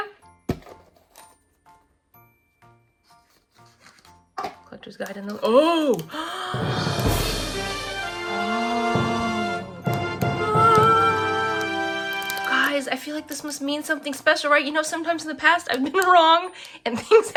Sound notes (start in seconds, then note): 6.0 gasps; 6.6 triumphant fanfare plays; 16.4 laughs